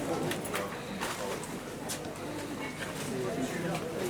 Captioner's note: quiet market ambience